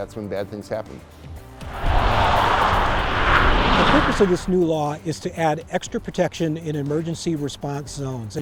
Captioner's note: highway Traffic Sound